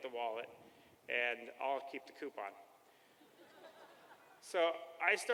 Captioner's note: laughter